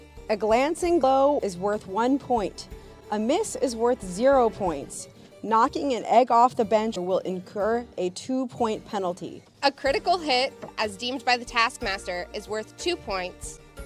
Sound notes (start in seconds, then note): none